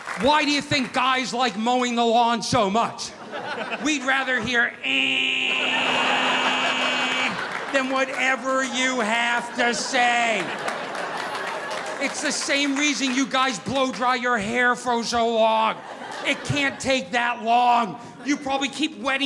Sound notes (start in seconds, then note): 5.1 imitating lawn mower